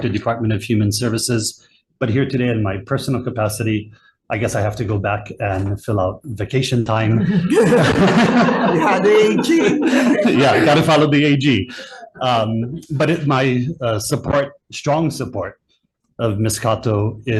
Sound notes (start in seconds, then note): 7.1 all laughing